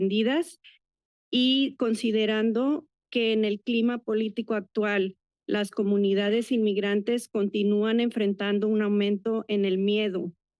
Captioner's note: foreign language